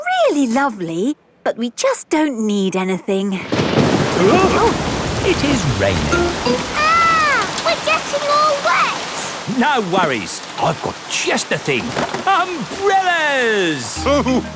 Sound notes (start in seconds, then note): 3.4 thunderclap; 4.1 parents gasp